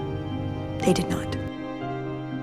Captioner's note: voiceover